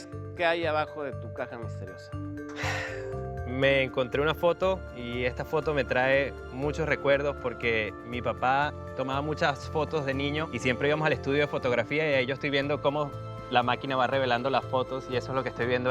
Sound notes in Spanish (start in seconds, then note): 2.5 Suspiro